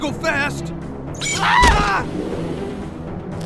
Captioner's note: yelps femininely